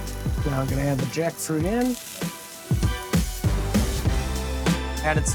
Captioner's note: upbeat music; pan sizzling